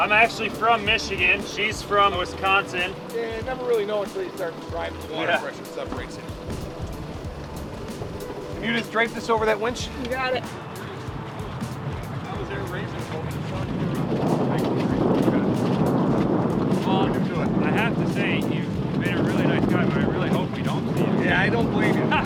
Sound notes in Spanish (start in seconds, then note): 12.3 viento